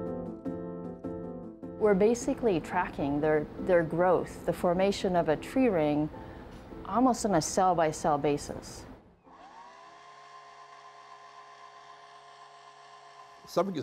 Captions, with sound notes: We're basically tracking their growth, the formation of a tree ring, almost on a cell by cell basis. (drill whirring)